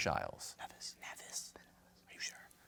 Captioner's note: whispering